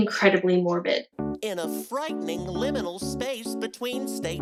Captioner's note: in sock puppet voice